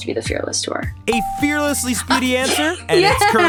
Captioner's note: bell ringing